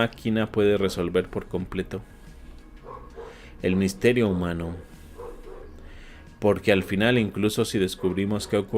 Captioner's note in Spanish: resoplido